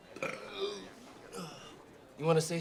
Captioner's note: people chattering indistinctly; Torpey burping